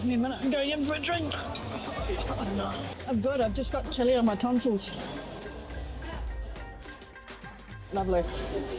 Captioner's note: coughing